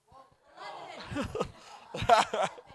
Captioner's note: laughing